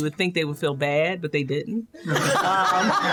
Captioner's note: laughter